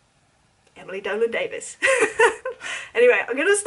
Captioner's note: chuckles